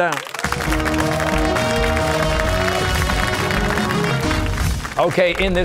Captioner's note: cheers and applause